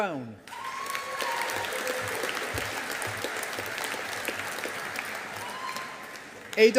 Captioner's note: audience applauding